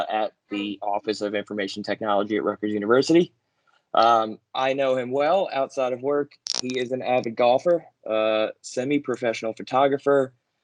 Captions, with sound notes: at the Office of Information Technology at Rutgers University. I know him well outside of work. (static) He is an avid golfer, semi-professional photographer,